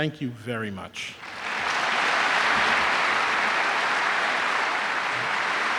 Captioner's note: applause